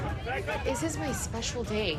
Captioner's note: yelling